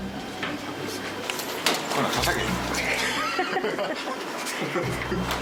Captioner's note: staff members chuckle